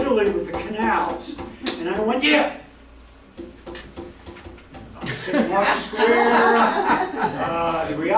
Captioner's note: tapping; tapping